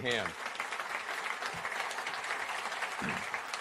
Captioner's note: applause